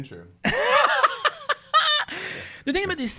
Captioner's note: laughing